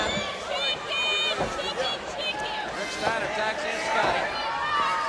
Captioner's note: audience cheers